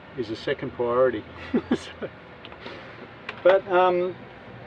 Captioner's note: laughs